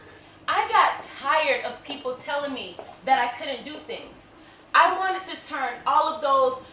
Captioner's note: none